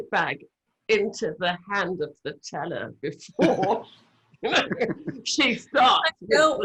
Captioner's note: laughs